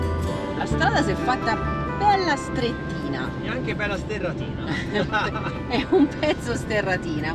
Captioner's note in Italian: risate